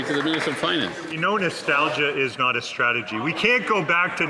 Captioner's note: some Applause